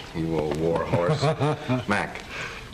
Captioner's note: McVeigh laughs